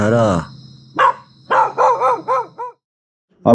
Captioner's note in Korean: 개 짖는 소리33